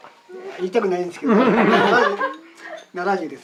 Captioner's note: laughs